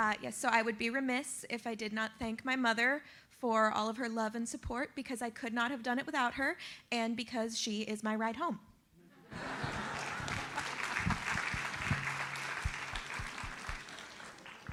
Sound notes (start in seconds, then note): 9.3 audience laughs and applauds